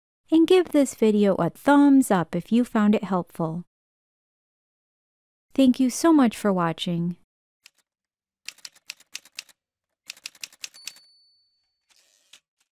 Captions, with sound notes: And give this video a thumbs-up if you found it helpful. Thank you so much for watching! [Typewriter sounds]